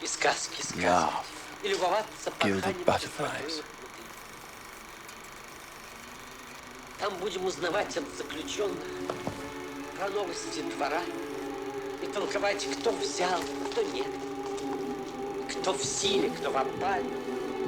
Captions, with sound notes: "and laugh at gilded butterflies." (film reel clicking) (dramatic music) (actor in film speaking foreign language)